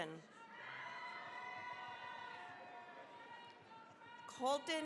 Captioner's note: cheering, applause